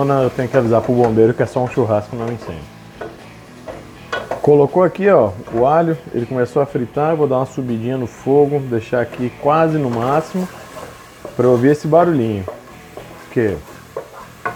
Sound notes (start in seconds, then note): 13.2 frying